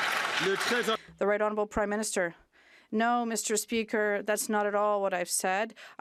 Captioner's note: some Applause